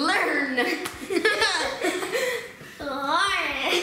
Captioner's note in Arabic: يضحك